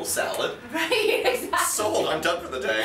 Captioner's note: laughs